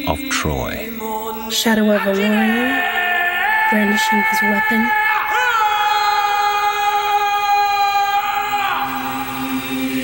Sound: man screaming ancient chant

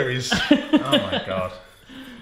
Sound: laughs

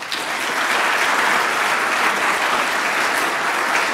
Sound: applause

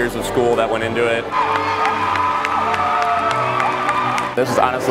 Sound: cheers

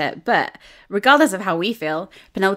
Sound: none

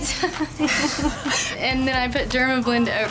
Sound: laughs

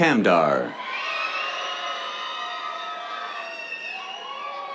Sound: cheers

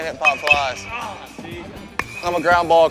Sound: ball hitting bat

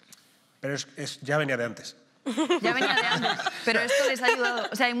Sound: laughter

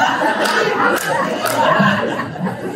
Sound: congregation laughing

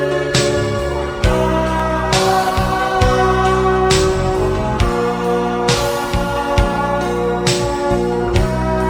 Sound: ha ha ha ha ha

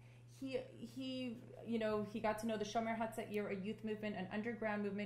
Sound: non-english

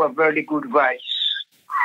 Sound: laughs

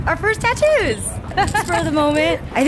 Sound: laughs

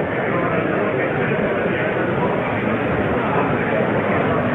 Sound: crowd murmuring

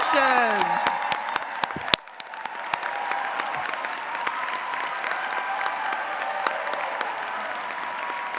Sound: cheering

